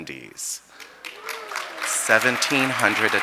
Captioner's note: audience applauding